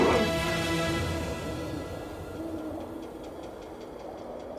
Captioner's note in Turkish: Baykuş sesi